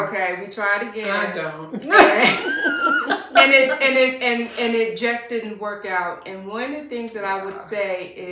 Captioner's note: laughter